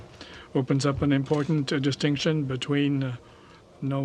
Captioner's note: speaking french